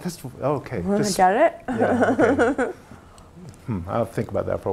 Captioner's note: laugh